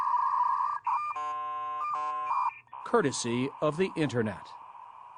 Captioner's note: electronic static